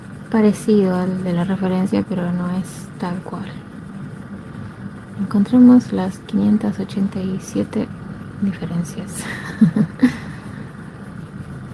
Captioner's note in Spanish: risas